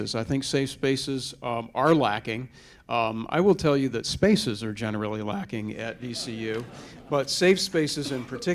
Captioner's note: chuckling